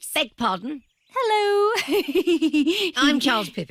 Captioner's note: giggles